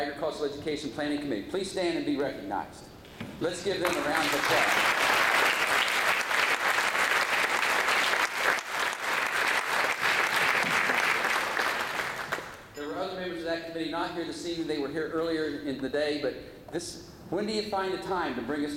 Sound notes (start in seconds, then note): 3.8 applause